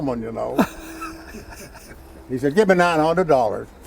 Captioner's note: host laughing